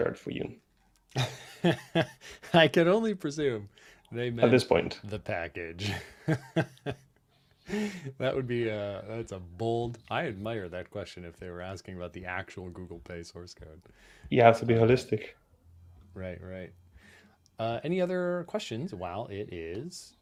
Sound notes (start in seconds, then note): 1.1 laughs